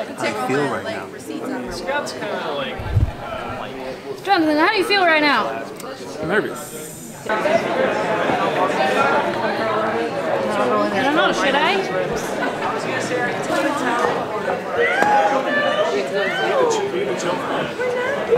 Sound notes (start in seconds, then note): 7.5 people speaking; 12.7 people speaking